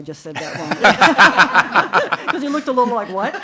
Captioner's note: committee laughs